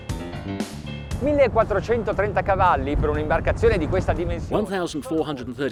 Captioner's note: speaking in foreign language